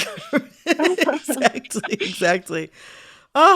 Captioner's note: laughter